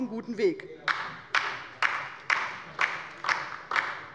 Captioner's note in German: Beifall bei der LINKEN